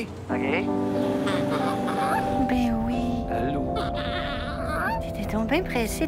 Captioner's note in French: gémissements du nouveau-né